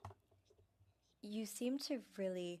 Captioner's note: speaking French